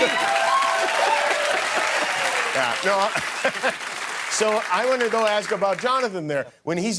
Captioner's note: cheers and applause